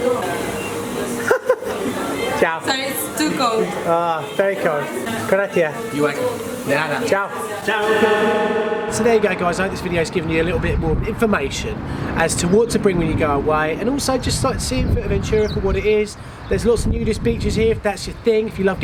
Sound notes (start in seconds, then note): 0.9 laughs